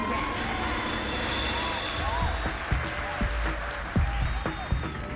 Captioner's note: cheering and applause